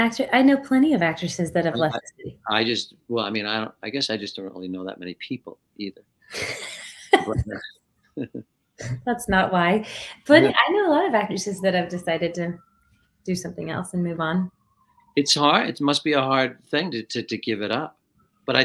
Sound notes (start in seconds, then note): 6.3 chuckling